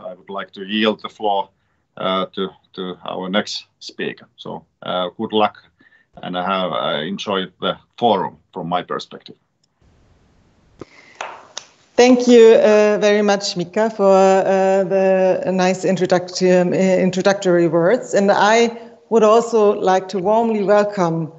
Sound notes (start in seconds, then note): 11.1 A few claps